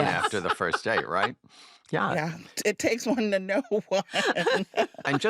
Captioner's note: laughs